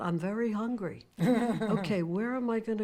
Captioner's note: Fran laughs